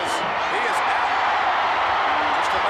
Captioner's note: crowd cheering